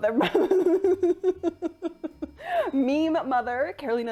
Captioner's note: laughter